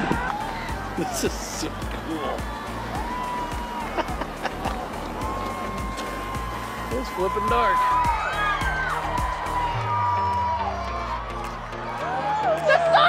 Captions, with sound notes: This is so cool. (laughing) It's flippin' dark. (wild cheering)